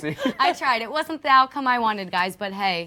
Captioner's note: laughter